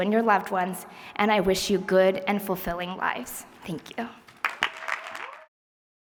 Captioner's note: applause